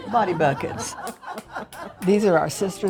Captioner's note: everyone laughing